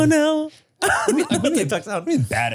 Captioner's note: Manny laughs